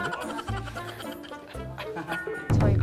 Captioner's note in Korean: 웃음